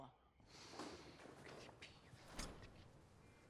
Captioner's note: whispering